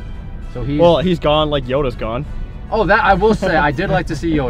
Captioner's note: laughs